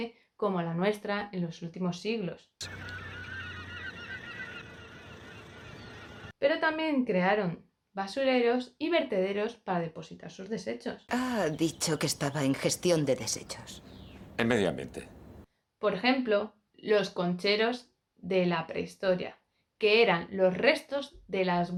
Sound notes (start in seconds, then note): 2.6 squawking seagulls